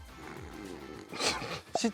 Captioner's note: snoring